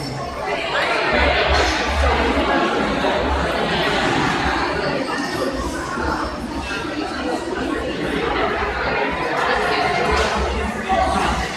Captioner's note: crowd chattering